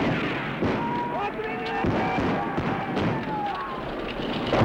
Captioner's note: men shouting; gunfire